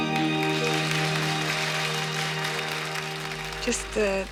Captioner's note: crowd applause